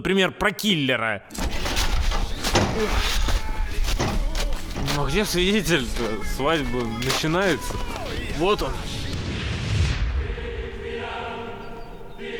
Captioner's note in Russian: грохот; тихий выстрел через глушитель